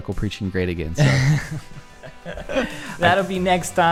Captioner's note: laughs